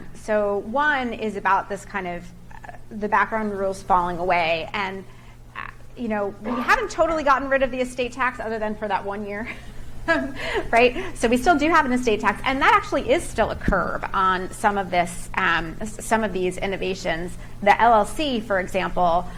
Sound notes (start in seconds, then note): 10.2 chuckles